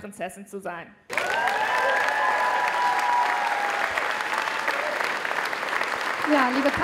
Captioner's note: applause